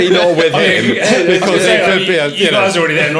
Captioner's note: laughing